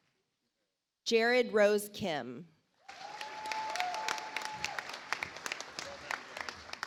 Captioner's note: audience applauds